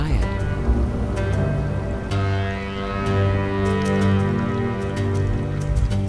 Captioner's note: light dramatic music; water trickling